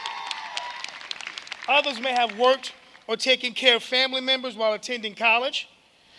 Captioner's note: applause